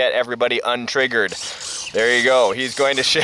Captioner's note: mechanical noise twisting back and forth